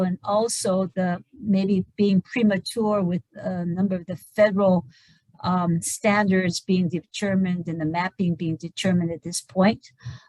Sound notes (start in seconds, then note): none